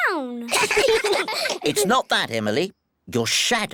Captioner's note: all giggle